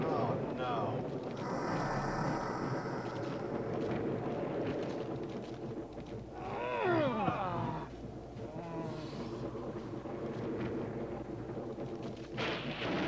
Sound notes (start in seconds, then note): 1.3 gargoyle puffs; 6.5 people grunting